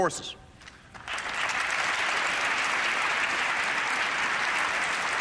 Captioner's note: applause